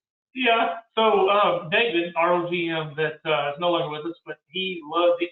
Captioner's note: murmurs